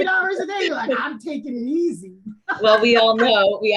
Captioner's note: laughs